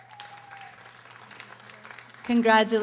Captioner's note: audience applauding